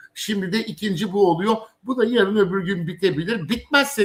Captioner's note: none